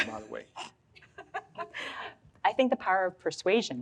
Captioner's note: audience laughs